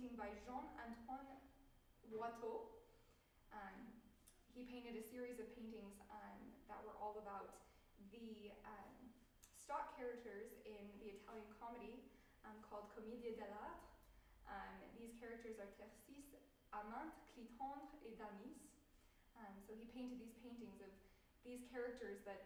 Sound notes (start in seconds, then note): 17.5 speaking french